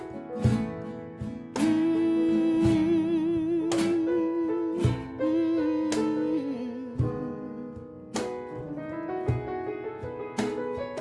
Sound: humming

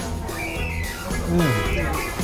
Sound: pleased noise

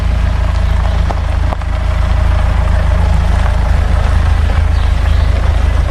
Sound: car noise; bird chirping

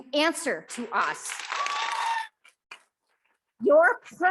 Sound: audience clapping

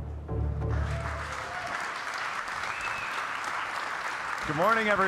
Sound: audience cheering and applauding

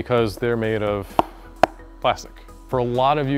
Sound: taps oil pan

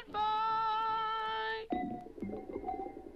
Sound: water bubbles

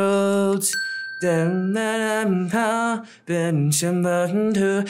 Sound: humming melody

